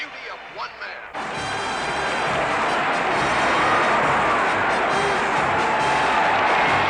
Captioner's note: crowds cheers and applauds